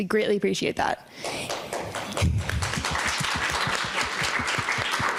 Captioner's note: audience applauding